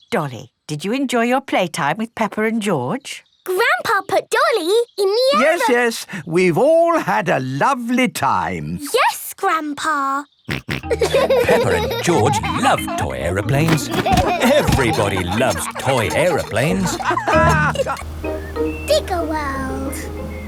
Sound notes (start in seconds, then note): 10.5 snorts; 11.0 laughing